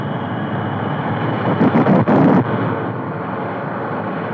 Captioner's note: engines roaring